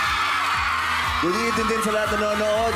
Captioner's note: crowd screams